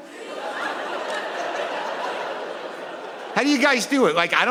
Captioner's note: audience laughing